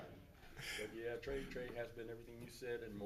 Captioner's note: laughs